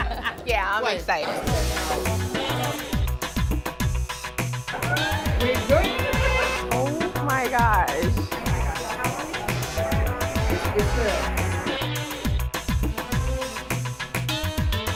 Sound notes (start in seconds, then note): 8.4 laughter